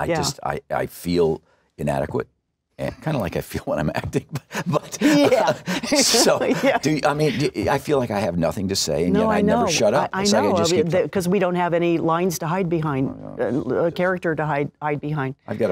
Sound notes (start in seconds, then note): 4.0 laughs